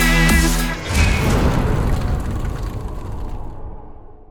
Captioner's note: impact